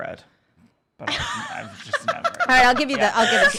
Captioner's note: laughs